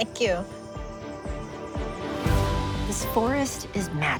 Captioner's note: laughs